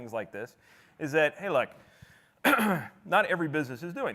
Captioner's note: clears throat